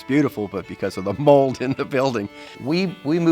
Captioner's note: laughs